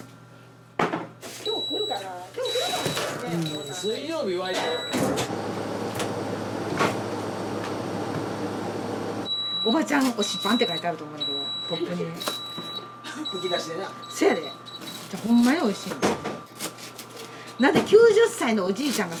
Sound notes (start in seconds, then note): 13.9 laughs